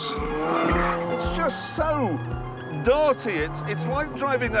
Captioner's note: tyres squealing